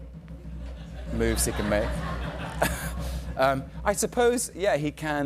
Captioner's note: drum roll; chuckles